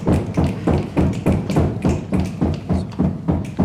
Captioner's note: crowd stomping their feet